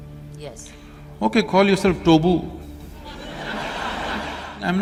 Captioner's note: laughter